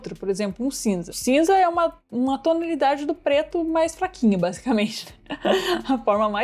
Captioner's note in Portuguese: risos